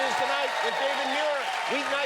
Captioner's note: cheers and applause